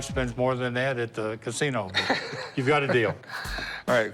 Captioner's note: Rick laughs